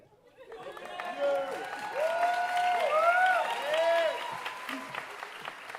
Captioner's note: audience cheering and applauding